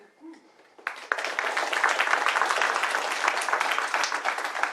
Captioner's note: applause